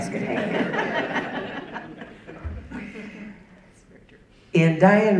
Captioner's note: audience laughing